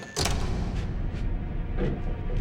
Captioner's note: door bangs; suspenseful music